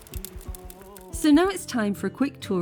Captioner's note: fire crackling